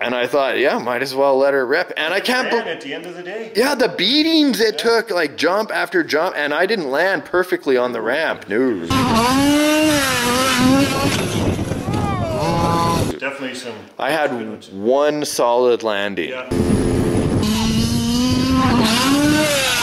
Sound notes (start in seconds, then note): 8.9 car engine roars; 16.5 car engine roars